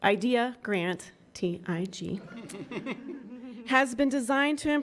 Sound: attendants giggling

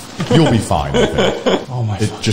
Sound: chuckles

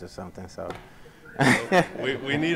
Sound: laughs

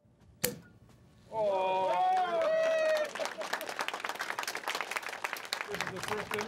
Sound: all cheering and applauding

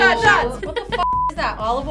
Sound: beep

